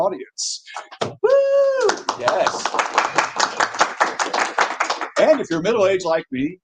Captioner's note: audience cheers and claps